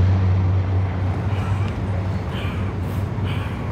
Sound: gasping for breath

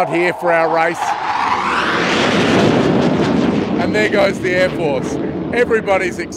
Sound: jet flys

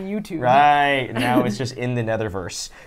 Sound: chuckles

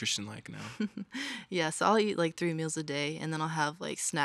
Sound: chuckles

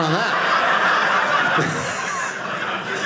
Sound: audience laughing

